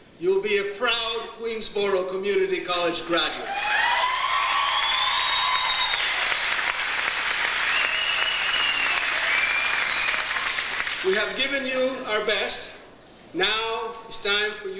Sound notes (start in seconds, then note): 3.4 audience cheers